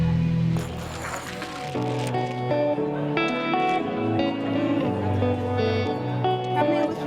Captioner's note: speaks in foreign language; tiles sliding; guitar music